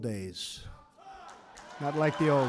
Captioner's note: applause